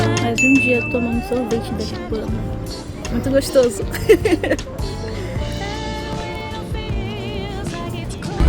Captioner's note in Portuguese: risadas